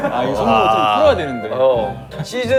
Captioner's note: surprised